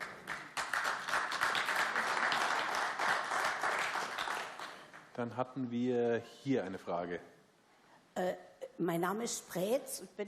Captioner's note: applause